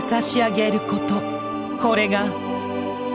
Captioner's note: none